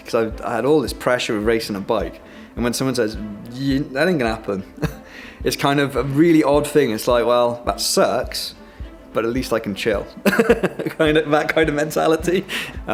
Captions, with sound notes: 'cause I had all this pressure of racing a bike. And when someone says, "That ain't going to happen." It's kind of a really odd thing. It's like well, "That sucks, but at least I can chill." (laughs) That kind of mentality.